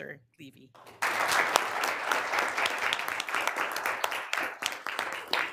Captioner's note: applause